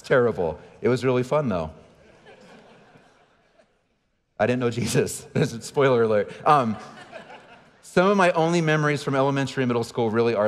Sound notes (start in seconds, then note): 2.0 audience laughing; 6.4 audience laughing; 6.7 laughing